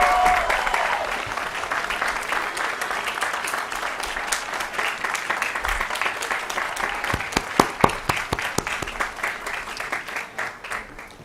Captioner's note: applause & Cheering